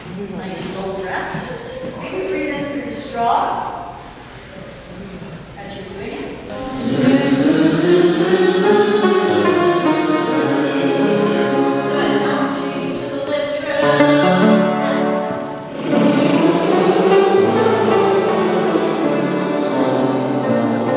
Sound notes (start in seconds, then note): 6.6 vocalizations on Z-Z-Z-Z-Z; 15.7 vocalizations on br-br-br-br-br